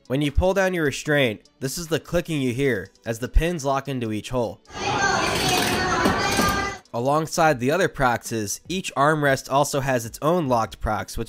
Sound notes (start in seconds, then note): 4.7 loud clicking of restraints; 4.7 theme park sounds